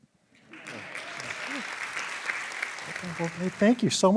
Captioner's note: applause